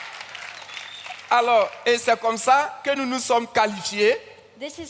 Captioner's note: continues in French